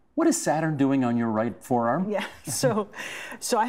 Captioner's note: laughing